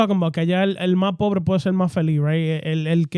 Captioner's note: speaking In Foreign Language